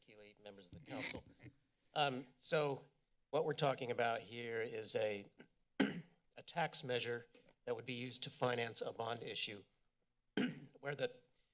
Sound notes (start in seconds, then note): 5.8 clears throat; 10.4 clears throat